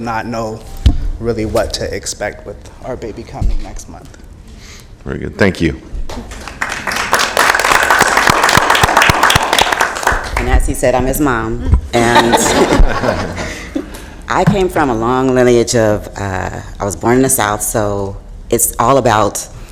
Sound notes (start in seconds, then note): 6.1 applause